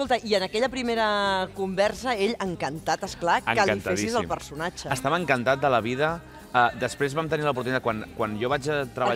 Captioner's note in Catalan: imita